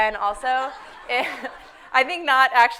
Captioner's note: everyone laughing